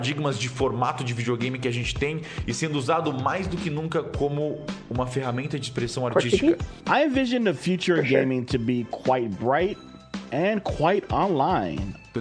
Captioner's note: speaking foreign language